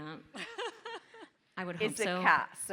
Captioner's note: laughing